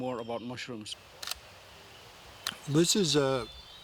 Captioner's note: shutter clicks